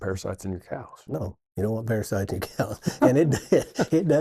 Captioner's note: laughs